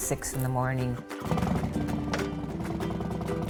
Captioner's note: motor rumbling